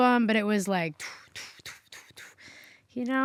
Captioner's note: imitates whooshing